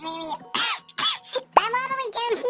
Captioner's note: coughs